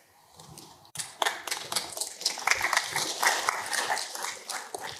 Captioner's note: applause